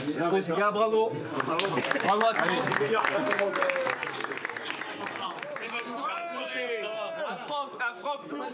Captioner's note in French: applaudissements